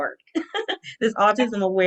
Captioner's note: laughing